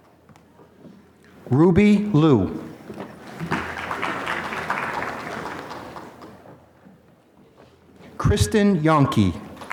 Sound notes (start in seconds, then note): 3.3 applause; 9.6 applause